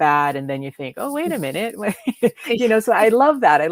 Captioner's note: laughs